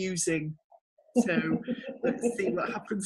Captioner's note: laughing